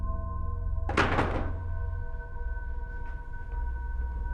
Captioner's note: rifle slams